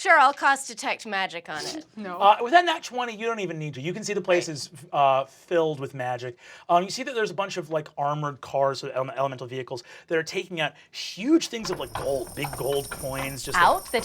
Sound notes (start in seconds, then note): 1.5 sniffs